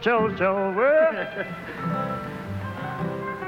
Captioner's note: laughter